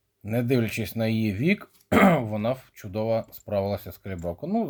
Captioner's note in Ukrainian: прочищення горла